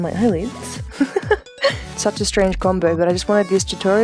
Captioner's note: laughs